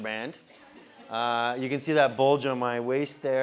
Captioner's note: laugh